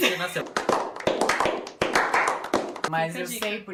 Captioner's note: clapping sound